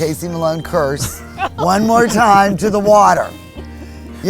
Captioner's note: laughs